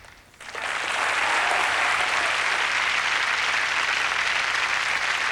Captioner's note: applause